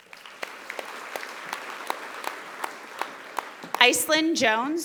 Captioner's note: audience applauding